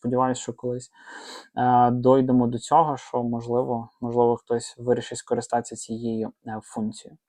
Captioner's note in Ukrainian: сопіння